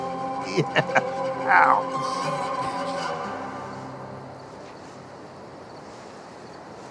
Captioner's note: chuckles